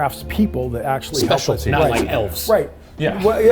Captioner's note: all laughing; scene whooshing